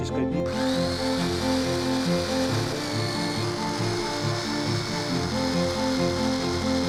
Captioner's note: grandpa speaks foreign language; gentle music; tool whirring